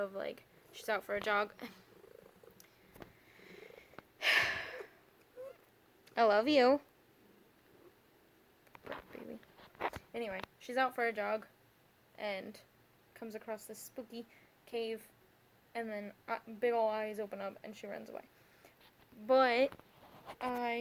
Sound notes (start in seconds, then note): 0.3 Queenie purrs; 4.2 sighs